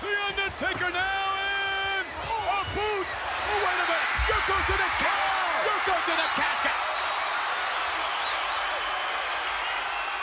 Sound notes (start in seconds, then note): 6.8 audience cheers